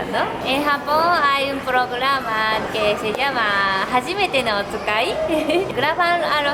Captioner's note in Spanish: en japonés